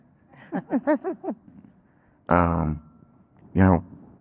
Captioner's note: laughing